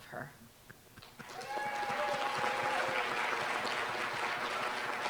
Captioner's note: applause